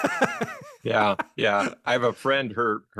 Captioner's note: laughing